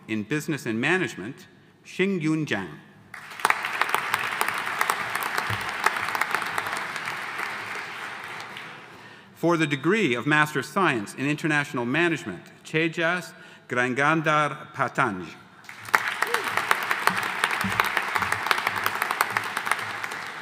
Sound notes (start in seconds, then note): 3.1 audience applauding; 15.6 audience applauding